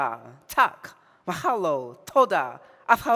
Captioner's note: speaking in foreign language